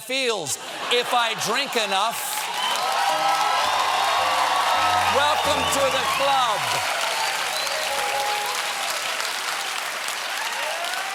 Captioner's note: cheers and applause